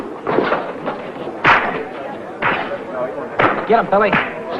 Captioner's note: fists thudding